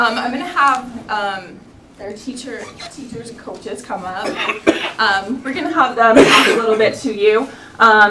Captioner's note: laughter